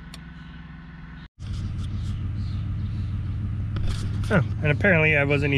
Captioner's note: engine idling